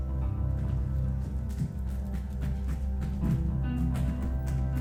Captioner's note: footsteps thumping